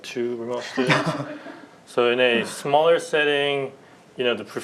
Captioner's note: laughter